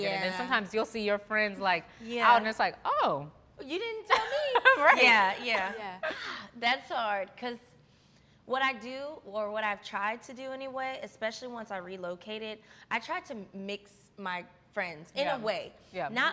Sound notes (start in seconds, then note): 4.1 all laughing